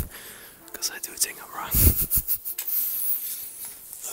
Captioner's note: chuckles